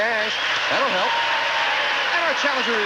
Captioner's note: audience applauding